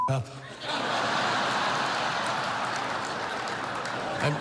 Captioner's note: laughter